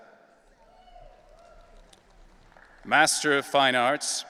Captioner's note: audience cheering